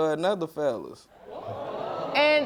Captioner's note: audience exclaims